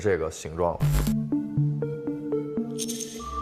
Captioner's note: ding, Entered through Door One